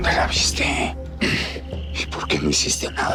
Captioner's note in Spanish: Vicente carraspea